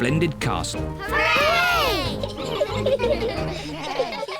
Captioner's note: giggle